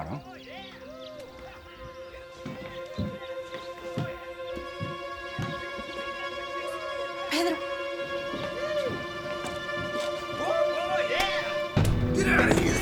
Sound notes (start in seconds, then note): 2.0 loud shouting outside; 9.0 loud shouting continues